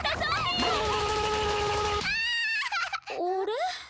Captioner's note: sounds of battle